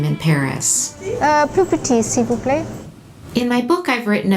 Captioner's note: speaking french